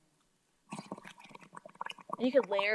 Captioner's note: bubbles gurgling